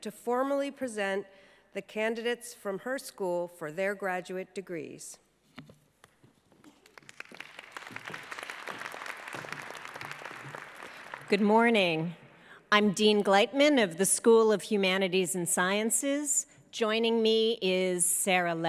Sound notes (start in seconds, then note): 8.5 applause